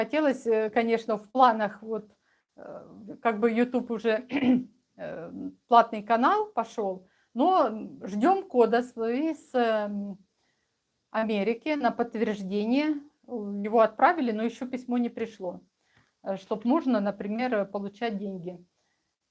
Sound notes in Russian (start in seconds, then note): 4.3 откашливается